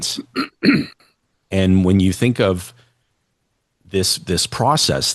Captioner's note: clears throat and cough